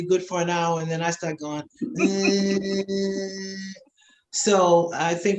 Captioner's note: humming